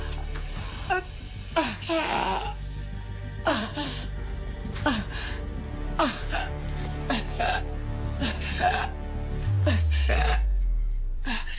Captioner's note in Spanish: Quejidos